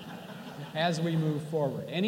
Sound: laughter

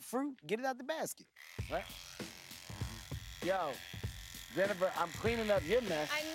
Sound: shear buzzes

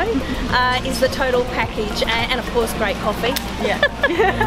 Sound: laughs

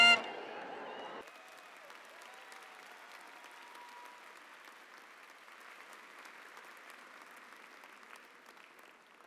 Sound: applause

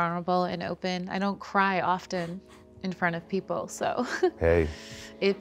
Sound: chuckles

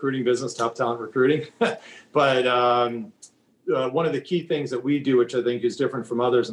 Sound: laughing

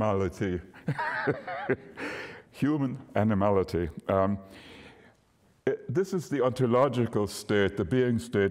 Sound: laughter

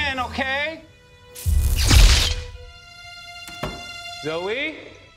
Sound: electrical popping

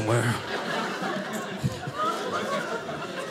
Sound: audience laughing

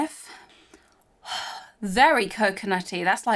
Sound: exhales

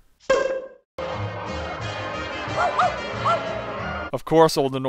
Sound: dog barking

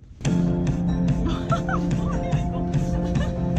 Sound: laughs

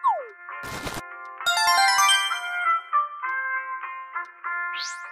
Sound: success sound

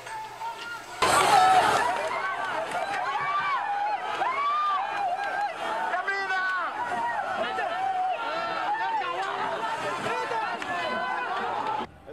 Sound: people yelling

